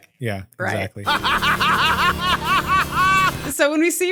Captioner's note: laughs